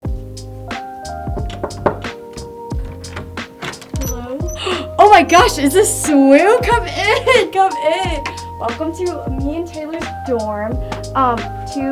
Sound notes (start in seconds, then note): 0.0 chill music; 1.1 door clacks; 1.1 door creaks; 1.3 knuckles thudding; 4.4 gasps